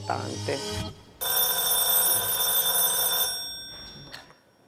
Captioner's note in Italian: squilla il telefono